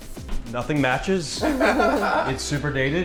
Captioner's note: everyone laughing